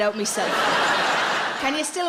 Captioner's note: audience laughs